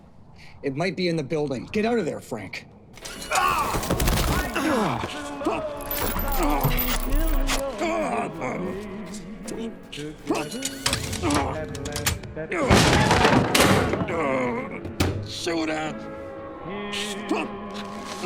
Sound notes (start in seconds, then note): 3.6 Frank shouts; 4.4 Frank groaning; 12.6 door bangs